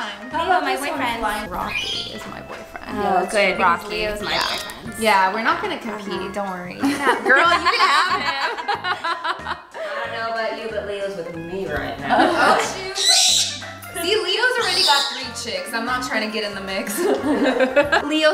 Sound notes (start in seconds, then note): 8.5 laughing; 16.8 laughing